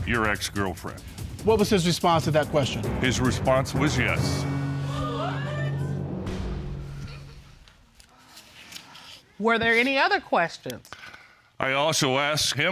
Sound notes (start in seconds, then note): 4.4 audience gasps